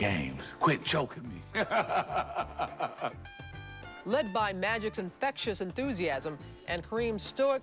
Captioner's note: laughs